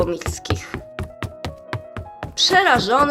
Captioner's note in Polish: odgłos kroków